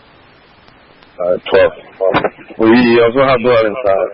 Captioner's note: radio traffic